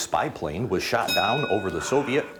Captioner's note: bell dings